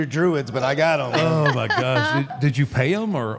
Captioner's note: Michelle laughs